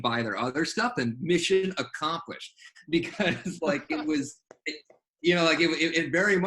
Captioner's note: laughs